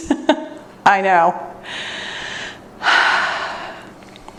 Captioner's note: exhales